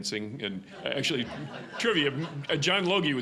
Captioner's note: audience laughing